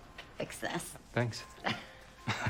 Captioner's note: both chuckle